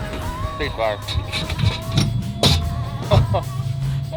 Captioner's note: metal clangs; chuckles